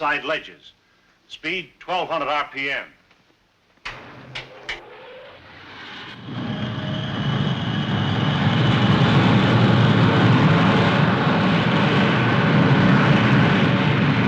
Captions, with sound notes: Speed 1200 RPM. (machine whirring)